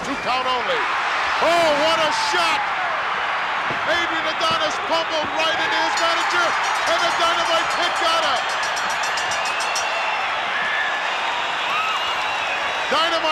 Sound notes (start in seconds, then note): 2.9 crowd cheers; 8.7 bell rings; 8.7 crowd cheers